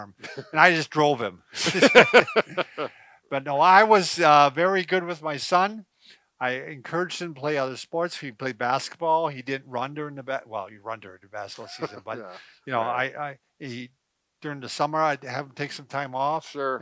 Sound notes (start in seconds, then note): 1.6 chuckles; 1.6 laughs